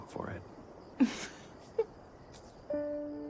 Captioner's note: laughs